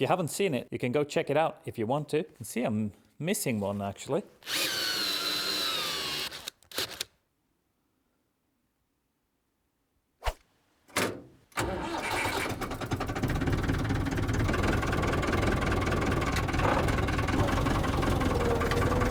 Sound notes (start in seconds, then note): 4.4 wild drill noises; 12.4 Beautiful Perkins 4cyl noises